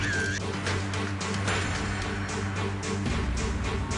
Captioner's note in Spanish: Clic